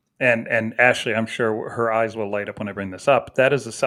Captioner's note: none